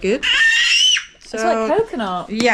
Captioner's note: baby screaming in the background